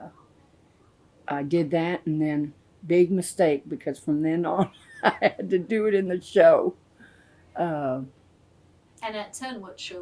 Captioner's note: laughs